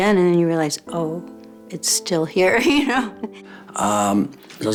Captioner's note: small laugh